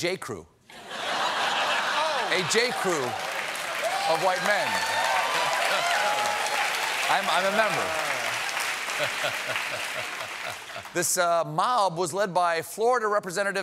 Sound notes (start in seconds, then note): 3.5 laughter; 10.9 applause